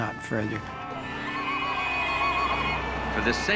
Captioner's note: horns honking, person ululating